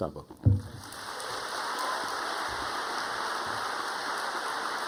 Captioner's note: audience applauding